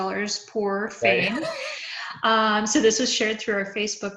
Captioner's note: laughs